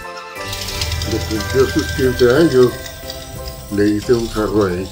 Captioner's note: engine starts; dad continues to speak Spanish